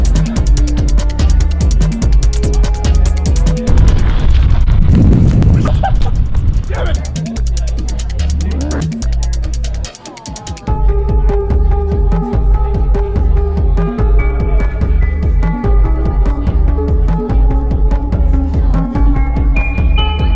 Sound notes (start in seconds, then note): 0.0 electronic music; 5.4 laughs loudly; 8.2 electronic music; 17.1 electronic music